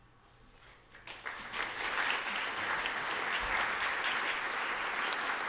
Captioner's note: audience applauding